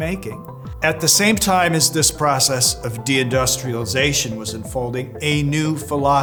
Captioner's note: professor voice